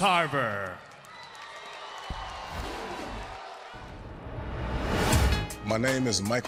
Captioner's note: crowd cheering